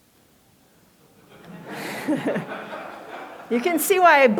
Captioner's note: laughter